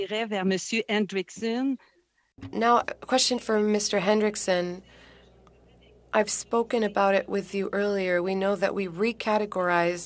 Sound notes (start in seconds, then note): 6.6 speaking French